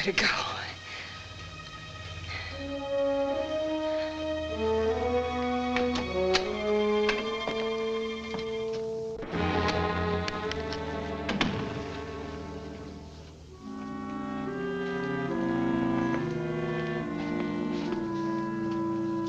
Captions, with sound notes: You better go. (tense music) (building door thuds shut)